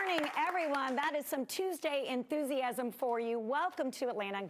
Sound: applause

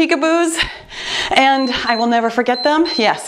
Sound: timer beeps

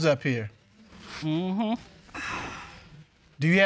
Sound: sighs

